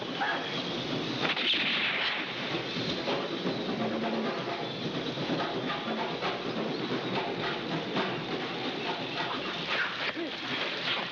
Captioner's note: gunshots; gunshots